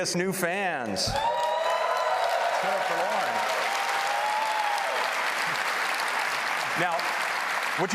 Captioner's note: applause